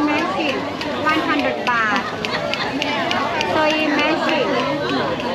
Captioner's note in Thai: ปรบมือ